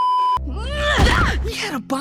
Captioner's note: beeeeeeeeeeeep; yelps